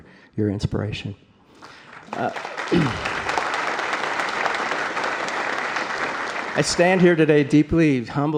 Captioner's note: applause